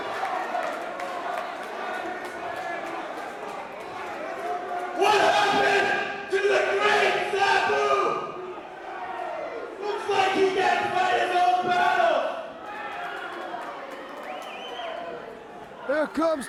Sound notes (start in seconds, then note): 11.8 crowd cheering